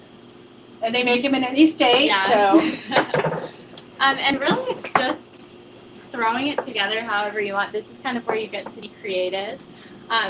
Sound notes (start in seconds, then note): 2.4 laughter